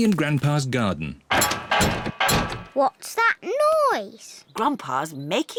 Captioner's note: clattering and clanging